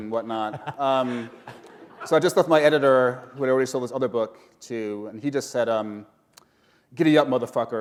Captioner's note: chuckle